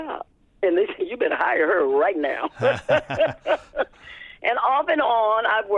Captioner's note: laughter